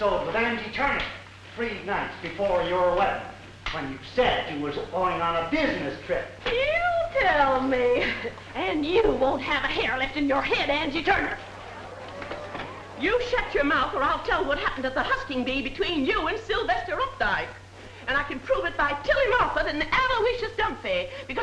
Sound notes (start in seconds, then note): 11.1 group chattering